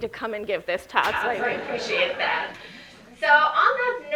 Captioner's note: audience laughing